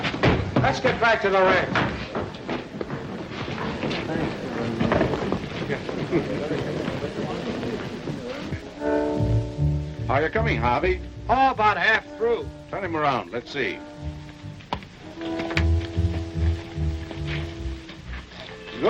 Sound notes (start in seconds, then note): 4.9 crowd chattering; 15.0 soft suspenseful music